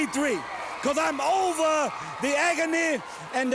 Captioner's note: crowd cheering